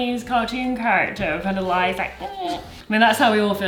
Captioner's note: whines